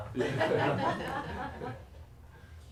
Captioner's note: laughter